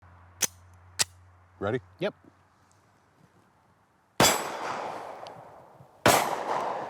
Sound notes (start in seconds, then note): 0.4 gun clicking; 4.1 guns banging